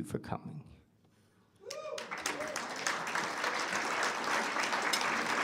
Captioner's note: whooping, applause